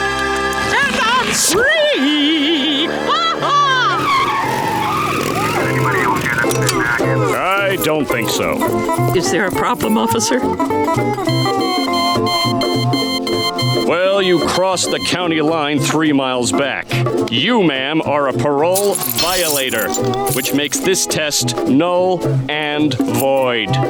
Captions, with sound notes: And I'm free! Ha ha! [siren blaring] [cb chatter] I don't think so. Is there a problem, officer? [beeping] Well, you crossed the county line three miles back. You, ma'am, are a parole violator, which makes this test null and void.